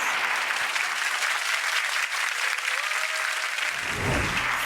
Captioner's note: audience clapping